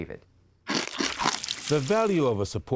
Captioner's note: chomping sound